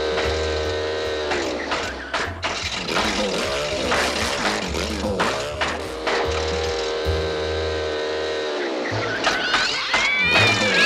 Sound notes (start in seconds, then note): 0.1 motor sputters; 6.6 motor whirs; 9.0 motor meows and hisses